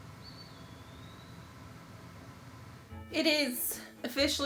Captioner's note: birds chirping